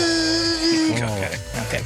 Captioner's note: buzzing